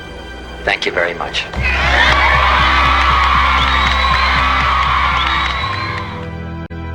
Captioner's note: warm Applause